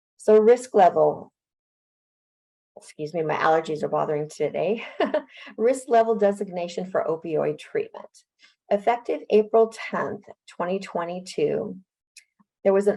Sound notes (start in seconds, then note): 5.2 laughs